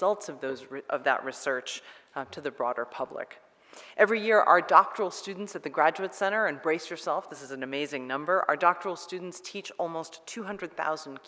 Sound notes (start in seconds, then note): none